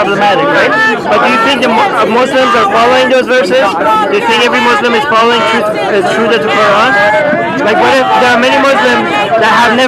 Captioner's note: shouting